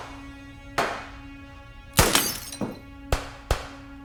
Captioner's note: vase shattering; guns firing